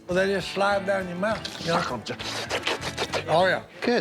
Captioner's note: slurping